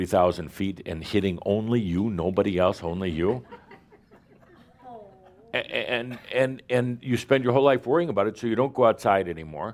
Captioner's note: a few chuckles